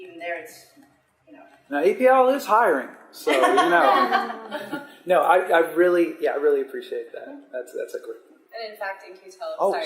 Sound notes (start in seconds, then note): 3.2 laughter